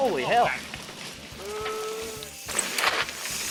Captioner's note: shouting; wheels spinning